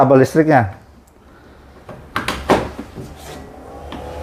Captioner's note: plugging cable noise; printer machine noise